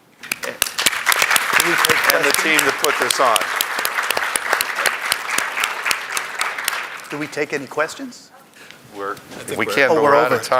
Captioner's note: applause